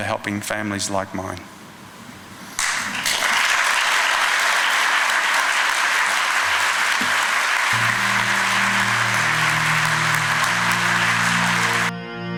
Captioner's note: clapping